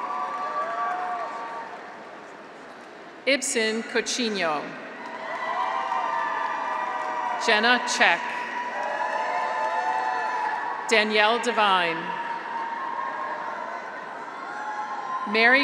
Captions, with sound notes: (graduates cheer) Ibsen Coutinho. (graduates cheer) (audience applauds) Jenna Czeck. (graduates cheer) (audience applauds) Danielle Devine. (graduates cheer)